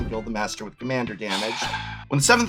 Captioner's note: sighs